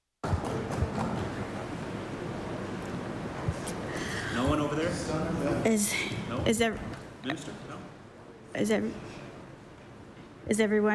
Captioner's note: applause